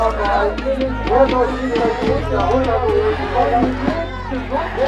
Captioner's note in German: Geschrei